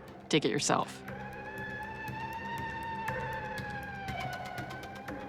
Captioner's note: siren blaring